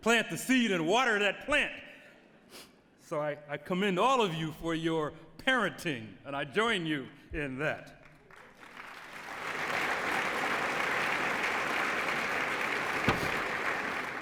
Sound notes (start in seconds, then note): 8.0 applause